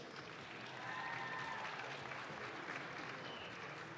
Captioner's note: audience claps